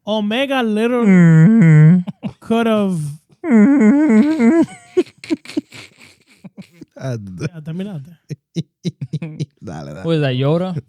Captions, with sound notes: Omega literally could've. (Laughing) (Speaking In Foreign Language) What is that, Yoda?